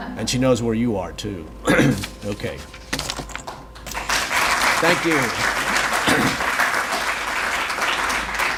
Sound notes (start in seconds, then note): 3.8 audience applauds